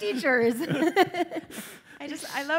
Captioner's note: laughter